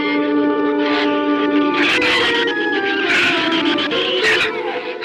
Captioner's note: shrews chatter